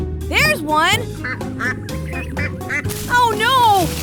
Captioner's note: duck quacking